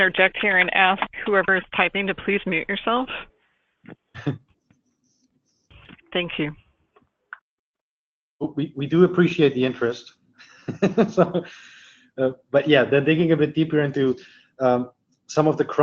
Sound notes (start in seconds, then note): 10.4 laughs